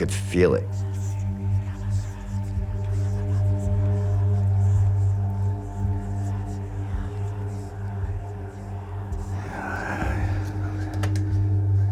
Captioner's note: whisper